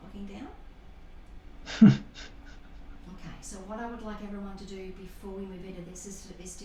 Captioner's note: laughter